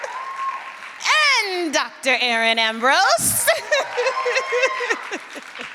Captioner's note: laughs; cheering